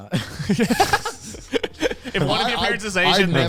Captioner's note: laughs